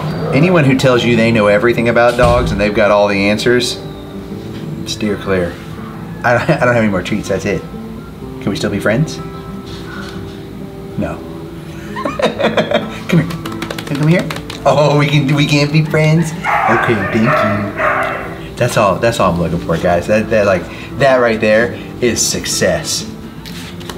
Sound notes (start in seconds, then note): 11.8 laughs; 15.7 dogs barking